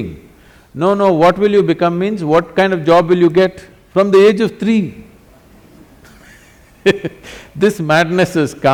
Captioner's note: laughs